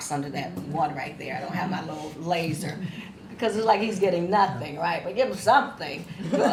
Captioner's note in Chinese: 心领神会狂笑声